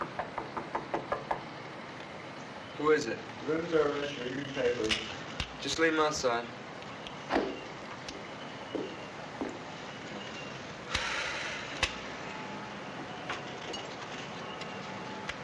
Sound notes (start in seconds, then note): 0.0 knocking; 11.0 sighing